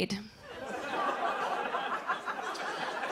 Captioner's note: laughter